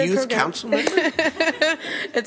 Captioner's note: laughter